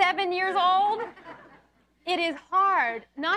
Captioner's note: audience laughs